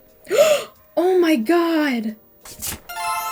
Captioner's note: gasp